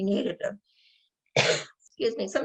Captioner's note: coughs